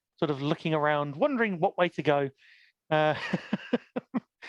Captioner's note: laughs